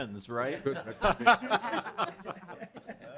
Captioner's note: laughter